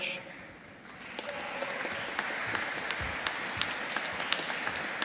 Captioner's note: audience applauding